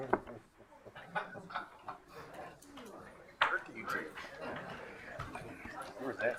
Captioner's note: crowd chuckling and chattering